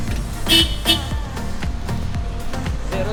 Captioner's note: honking